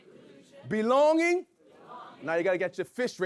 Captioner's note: audience chanting